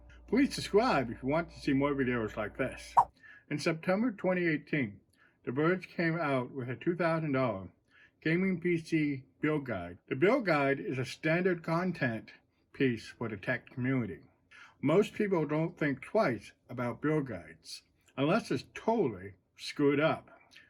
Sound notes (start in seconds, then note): 2.9 swipe sound